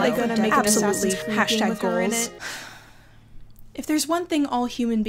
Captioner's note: speaker sighs